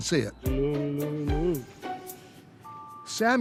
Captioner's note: camel grunting